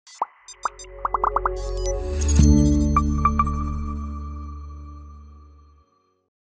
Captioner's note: gentle music; bubble popping